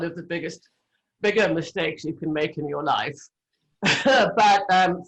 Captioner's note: laughs